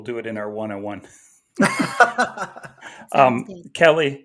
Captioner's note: laughs